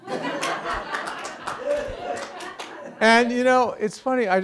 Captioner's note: students laughing